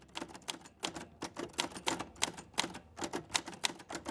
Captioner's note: typewriter clicking